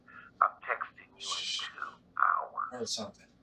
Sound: speaker phone; Bryan shushes crystal

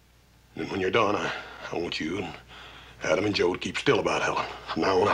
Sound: none

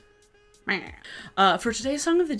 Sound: meows

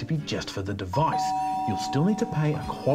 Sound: doorbell rings

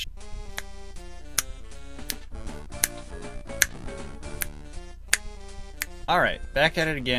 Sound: snaps along to the music because it's good

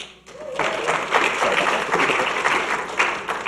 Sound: audience clapping

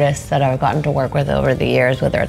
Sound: none

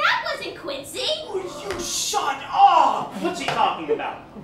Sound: whisper

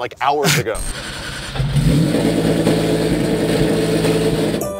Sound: engine Revving

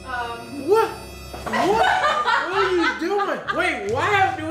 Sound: dramatic, exclamatory music; stammers

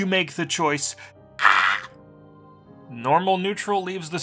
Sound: pained emotional scream

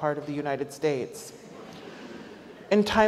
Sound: audience laughs

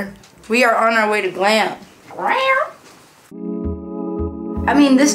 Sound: imitates cat meow

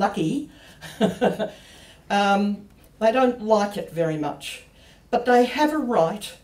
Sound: laughs

